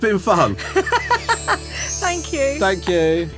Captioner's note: laughing